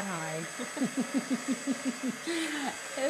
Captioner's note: both laugh